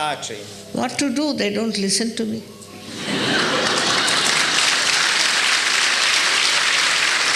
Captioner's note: applause